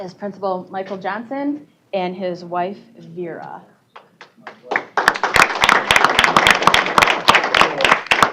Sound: applause

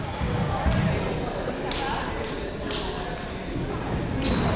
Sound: people talking in the crowd

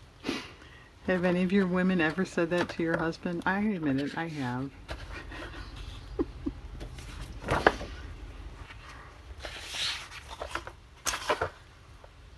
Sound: laughs

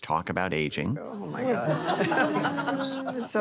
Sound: guests chatter, laugh

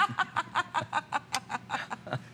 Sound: laughter

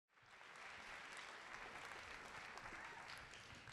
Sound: applause

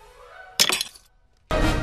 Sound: ice cracking

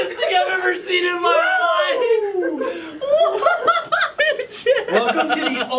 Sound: laughs

